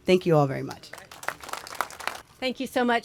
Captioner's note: applause